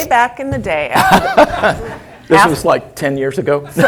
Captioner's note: laugh